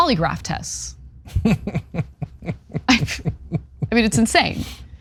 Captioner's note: laugh